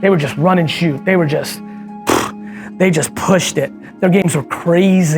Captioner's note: exhales